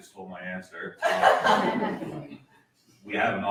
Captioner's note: laughter